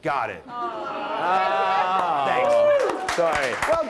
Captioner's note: claps